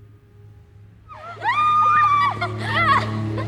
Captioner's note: laughing